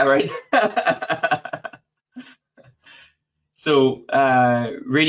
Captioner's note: laughs